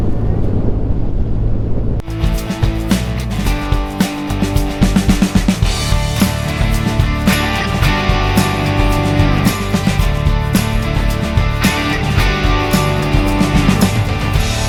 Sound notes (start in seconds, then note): 7.3 applause